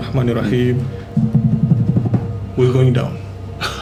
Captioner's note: footsteps